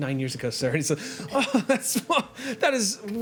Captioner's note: laughs